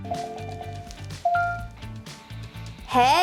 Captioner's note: ding